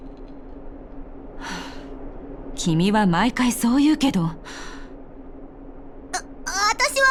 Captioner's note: sigh